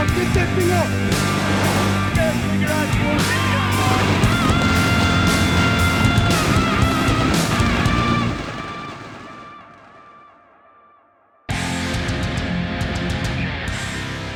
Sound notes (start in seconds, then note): 2.5 waves crash; 4.6 explosion rumbles; 11.4 rock music